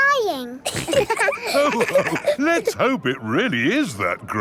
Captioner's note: all laughing